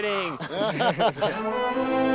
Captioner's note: laughter